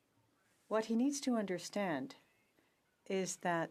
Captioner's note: speaking French